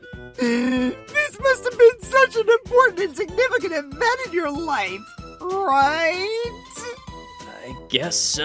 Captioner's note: crying